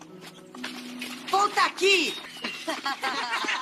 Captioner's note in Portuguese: risos